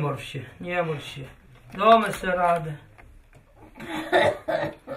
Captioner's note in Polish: kaszel